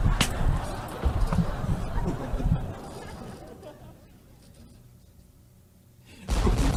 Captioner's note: laughter